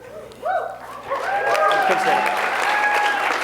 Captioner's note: applause